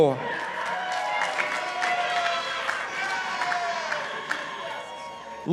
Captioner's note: participants applauding